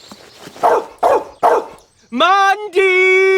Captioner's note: barking